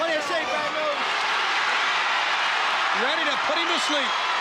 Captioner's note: audience cheering